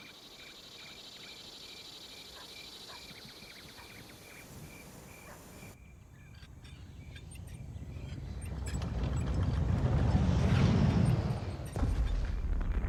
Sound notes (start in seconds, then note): 7.5 rumbling; 11.8 crashing